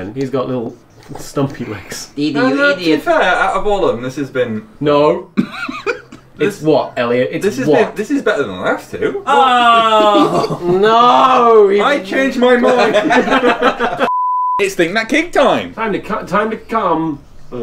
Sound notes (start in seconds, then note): 5.3 laughing